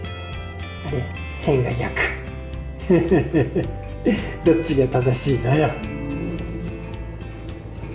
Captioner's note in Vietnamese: cười